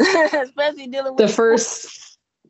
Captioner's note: laughing